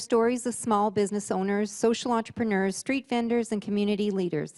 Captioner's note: voice-over